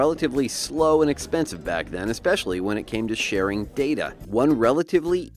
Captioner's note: man talking into olden microphone